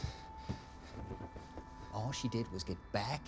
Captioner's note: heavy breathing